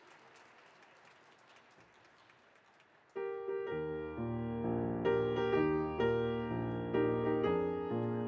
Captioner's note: applause